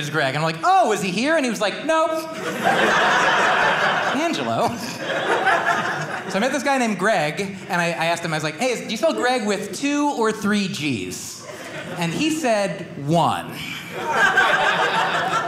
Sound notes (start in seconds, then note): 13.6 audience laughing